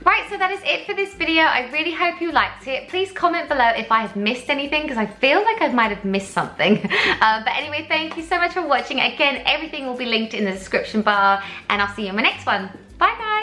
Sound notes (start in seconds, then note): 6.6 laughs